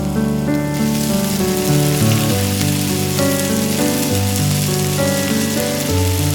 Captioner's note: fry pan sizzle intensifies